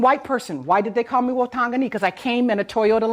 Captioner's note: speaks in foreign language